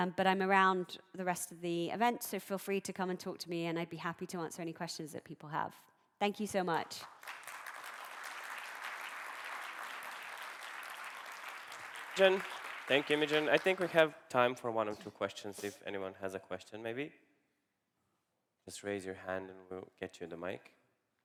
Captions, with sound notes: But I'm around the rest of the event. So feel free to come and talk to me and I'd be happy to answer any questions that people have. Thank you so much. [APPLAUSE] Thank you, Imogen. I think we have time for one or two questions if anyone has a question maybe. Just raise your hand and we'll get you the mic.